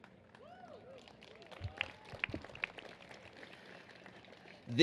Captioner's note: cheers and applause